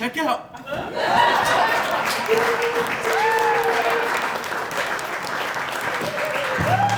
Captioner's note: laughter; applause